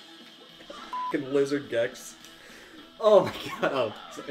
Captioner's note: beeps